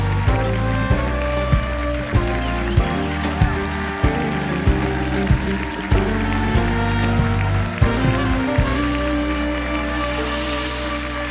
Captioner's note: cheers and applause